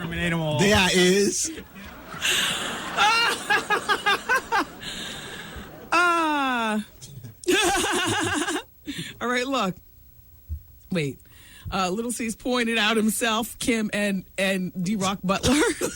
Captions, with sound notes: There I is. [LAUGHTER] All right, look. Wait. Little C's pointed out himself, Kim and DRock Butler.